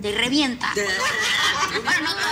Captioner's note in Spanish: Risas